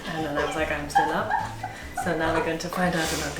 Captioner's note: laughing